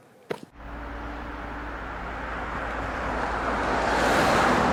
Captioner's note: traffic roaring